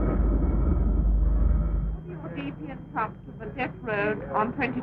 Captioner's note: crackling radio